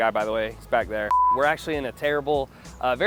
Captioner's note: test pattern beeping